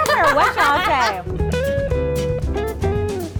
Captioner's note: laughter; soft jazz